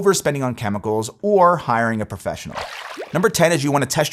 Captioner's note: water splashing